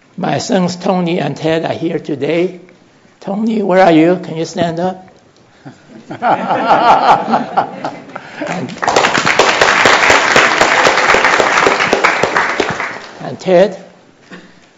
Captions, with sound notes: My sons, Tony and Ted are here today. Tony, where are you? Can you stand up? [Laughter] [Applause] And Ted?